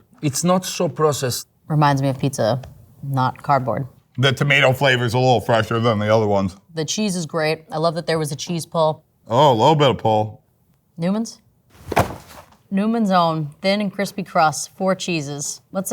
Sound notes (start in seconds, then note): 11.7 boxes clanging